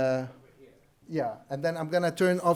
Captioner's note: participant speaks faintly